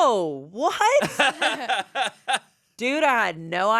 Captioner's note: laughs